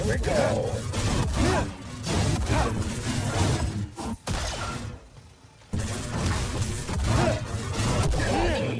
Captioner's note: gunshots